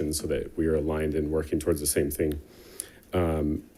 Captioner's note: none